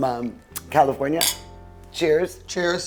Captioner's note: glasses clinking